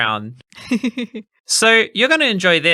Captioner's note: laughing